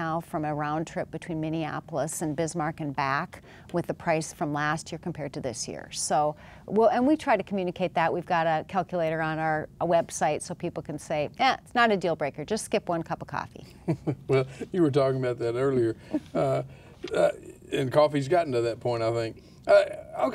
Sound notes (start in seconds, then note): 13.7 laughs